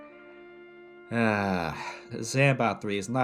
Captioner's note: sigh